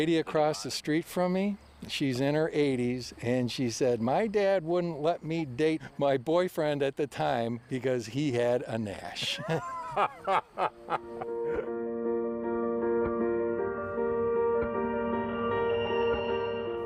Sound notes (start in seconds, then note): 12.7 laughter; 15.7 upbeat piano